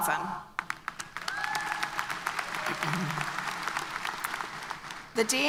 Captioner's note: applause